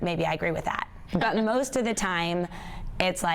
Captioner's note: laughs